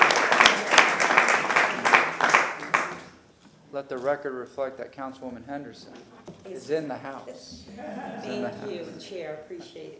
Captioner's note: applause